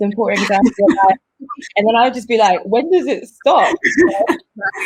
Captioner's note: all laugh